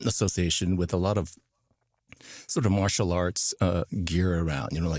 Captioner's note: none